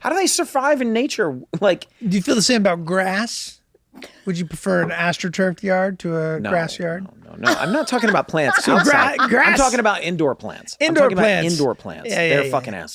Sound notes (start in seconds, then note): 7.4 Kaitlin laughs